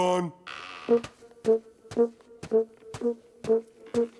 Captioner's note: trumpet sounds with every step